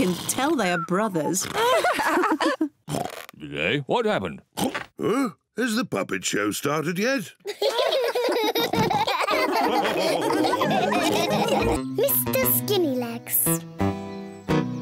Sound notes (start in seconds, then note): 1.4 lady pigs giggle; 7.4 all giggle